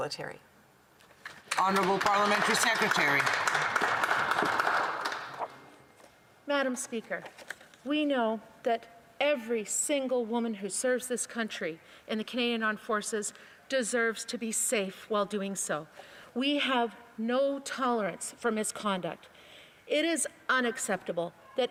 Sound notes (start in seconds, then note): 5.8 applause